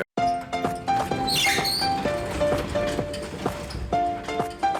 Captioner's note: garage door opening